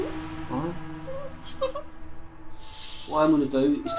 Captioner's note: muffled crying